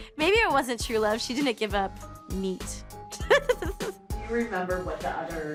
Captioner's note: laughs